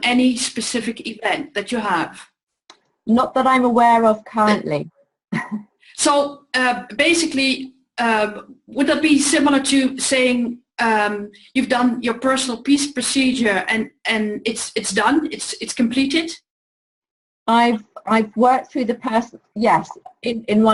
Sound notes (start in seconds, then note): 6.2 laughs